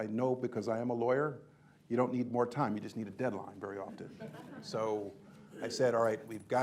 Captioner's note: laughter